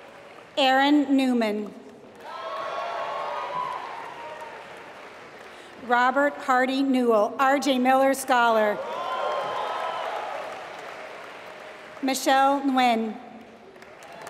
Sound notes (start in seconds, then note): 0.0 applause; 1.6 applause; 8.7 applause